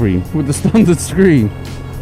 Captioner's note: laughs